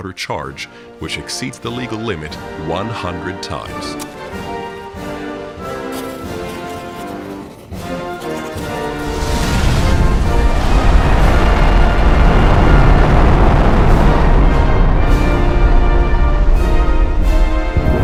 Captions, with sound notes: charge, which exceeds the legal limit one hundred times. *Rocket liftoff rumble*